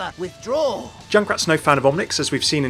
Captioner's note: voiceover